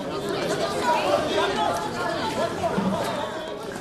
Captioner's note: reporters clamoring